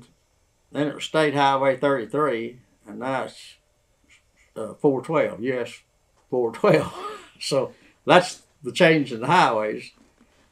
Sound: laughs

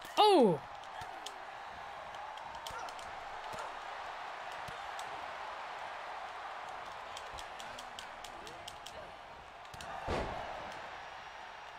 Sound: applause

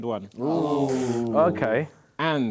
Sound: crowd booing

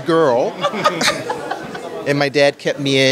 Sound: laughter

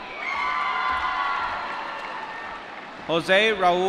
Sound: applause

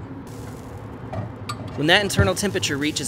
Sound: bacon sizzles

